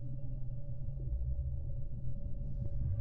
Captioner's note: none